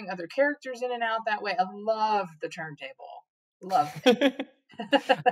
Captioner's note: both chuckle